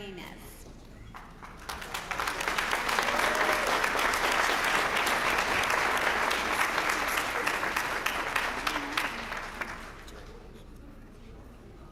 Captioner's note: applause